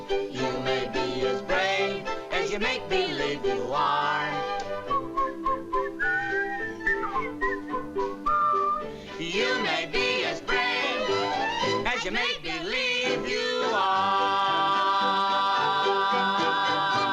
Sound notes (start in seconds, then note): 4.2 whistling